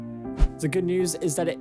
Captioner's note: screen swishes